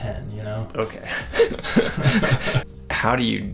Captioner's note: both laughing